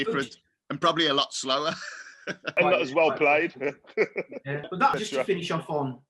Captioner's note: laughs